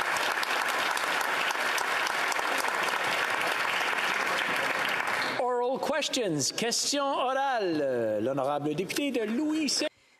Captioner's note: some Applause